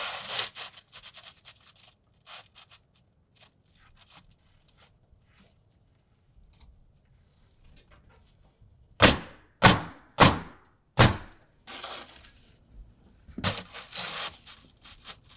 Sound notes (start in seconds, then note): 9.0 nail gun bangs